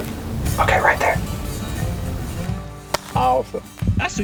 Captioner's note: whispering